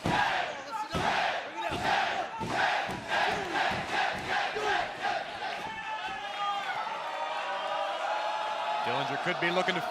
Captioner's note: fans chanting